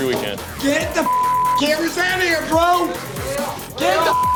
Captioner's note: beep; beep